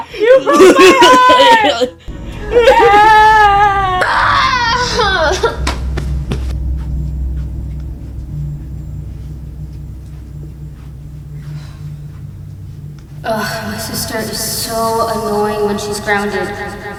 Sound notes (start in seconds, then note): 2.2 yelling; 4.0 groans in Frustration